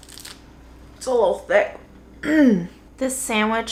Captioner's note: clears throat